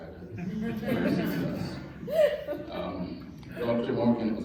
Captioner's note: laughter